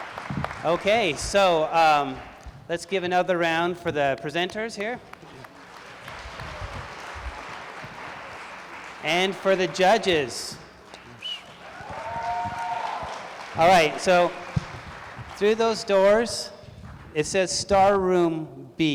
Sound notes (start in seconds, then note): 10.1 applause